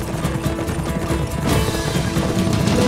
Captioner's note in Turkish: At kişneme sesi